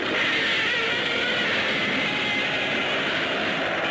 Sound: Gammera screeching

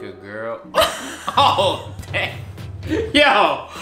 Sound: laughs

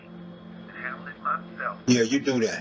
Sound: speaker phone

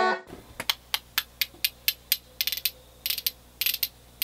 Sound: spoons clicking

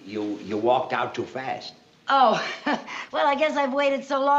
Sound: laughs

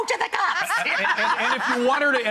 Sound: laugh

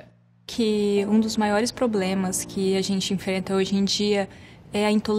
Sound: speaking Portuguese

